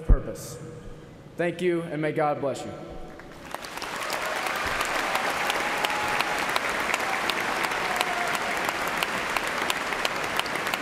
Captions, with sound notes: COMMON VALUES, LET US GO HUMBLY FORWARD WITH STRENGTH AND WITH PURPOSE. THANK YOU. AND MAY GOD BLESS YOU. [ CHEERS AND APPLAUSE ]